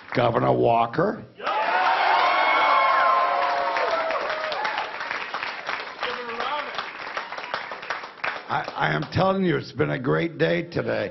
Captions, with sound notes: GOVERNOR KASICH, GOVERNOR WALKER -- [APPLAUSE]